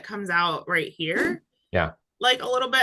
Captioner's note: graphic whooshing